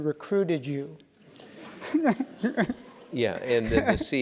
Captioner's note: laugh